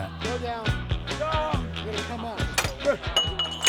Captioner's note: upbeat music continues; cadet yells; metal clanking